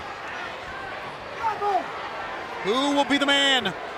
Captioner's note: crowd chatter